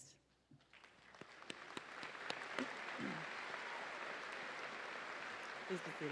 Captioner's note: audience applauding